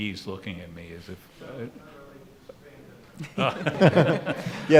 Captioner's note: mumbling from audience; laughing